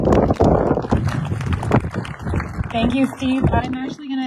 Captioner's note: applause